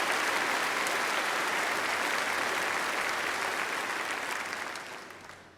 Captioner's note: applause